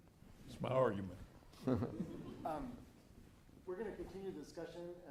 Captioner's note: audience laughing